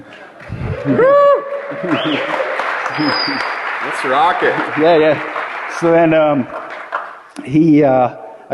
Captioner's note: applause; laughter; laughter